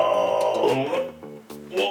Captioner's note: groaning